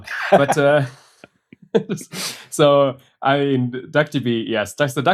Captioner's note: laughter